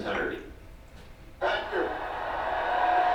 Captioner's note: audience cheering